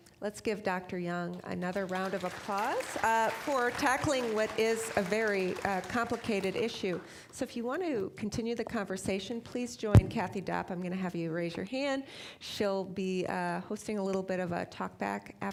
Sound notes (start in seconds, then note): 1.6 applause